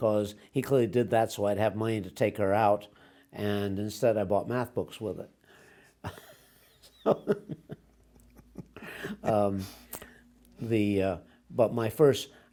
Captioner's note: laughs